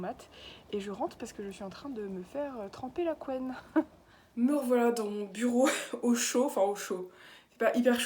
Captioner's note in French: rire